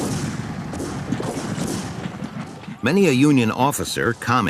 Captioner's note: guns bang